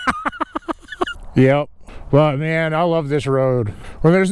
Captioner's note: laughing